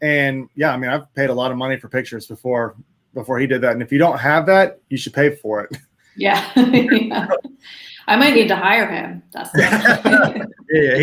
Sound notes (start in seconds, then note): 6.2 laughs; 9.5 all laugh